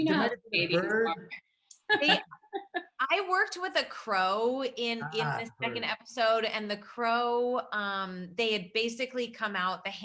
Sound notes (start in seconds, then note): 1.8 laughs